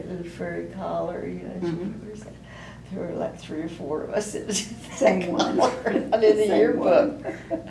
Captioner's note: laughter